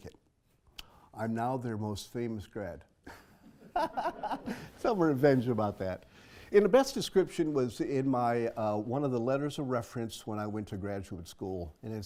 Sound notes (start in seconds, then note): 3.2 laugh